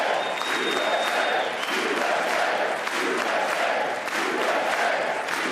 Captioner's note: applause